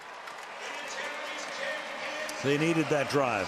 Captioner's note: pa announcement